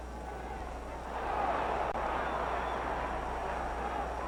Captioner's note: crowd cheers